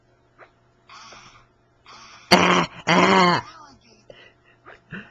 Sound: throws up

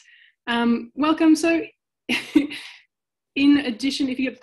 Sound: chuckles

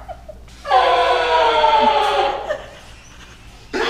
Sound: sarcastic scream

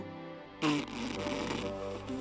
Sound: imitates a fart

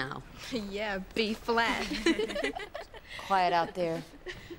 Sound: children sniggering

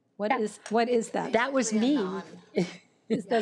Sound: laughs

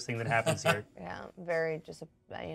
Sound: speaker laughs

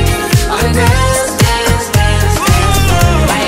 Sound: ooh

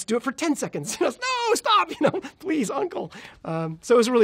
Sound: laughs

